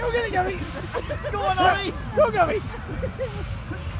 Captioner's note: laughing